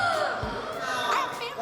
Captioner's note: gasps